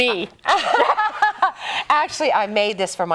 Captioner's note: laughter